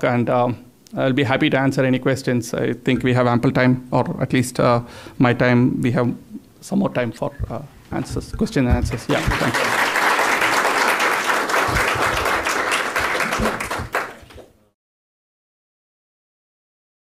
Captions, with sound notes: and I'll be happy to answer any questions. I think we have ample time, or at least my time, we have some more time for question and answers. Yeah. Thank you. (audience applauding)